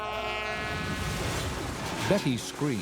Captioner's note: metal clangs